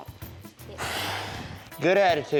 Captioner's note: sighs